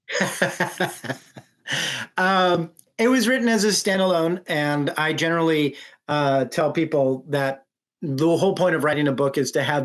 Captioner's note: laughs